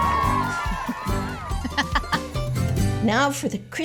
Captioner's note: laughing